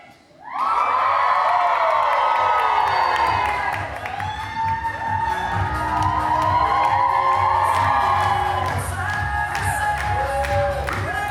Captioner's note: audience cheers loudly